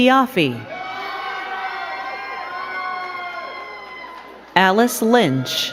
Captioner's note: crowd cheering and clapping